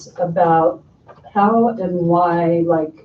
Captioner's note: none